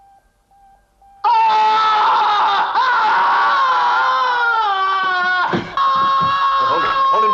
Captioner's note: screaming